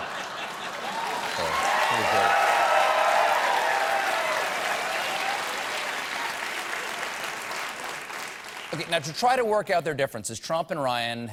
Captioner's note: cheers and applause